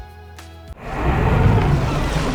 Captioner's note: boat engine whirring; water splashing; seagulls calling